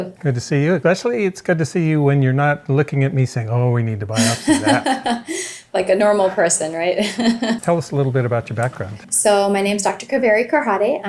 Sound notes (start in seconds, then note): 4.1 laughing